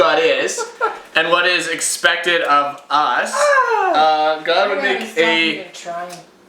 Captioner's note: oohhh!